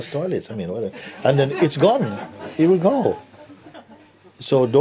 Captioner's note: laughter